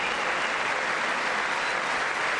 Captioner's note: applause